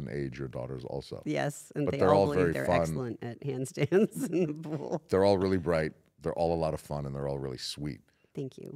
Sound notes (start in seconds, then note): 3.8 laugh